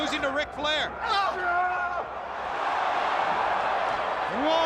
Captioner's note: wrestlers grunt